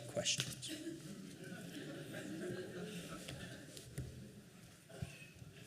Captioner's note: laughing